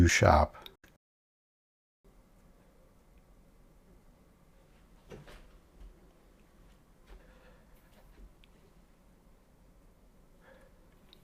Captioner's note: silence